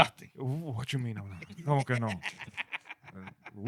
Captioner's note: laughing